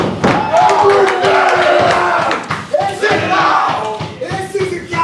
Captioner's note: shouting